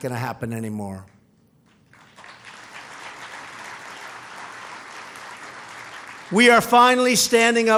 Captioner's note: applause